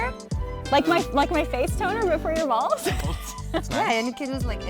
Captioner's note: laughs